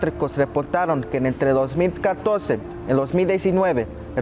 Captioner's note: speaking Spanish